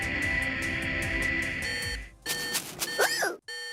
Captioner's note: beeping